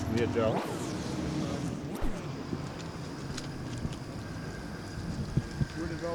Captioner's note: crowd noise